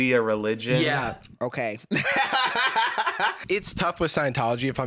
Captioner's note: laughs